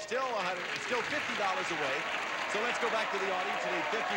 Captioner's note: audience applauding